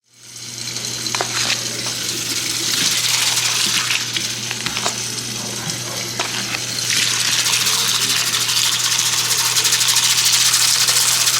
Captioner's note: water running